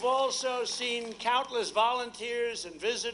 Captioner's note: applause